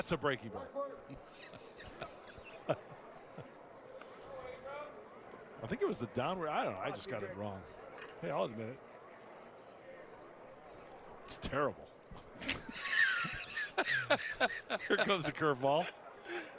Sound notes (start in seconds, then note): 6.0 laughter